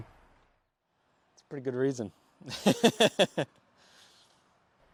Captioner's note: laughs